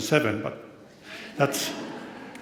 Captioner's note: audience laughs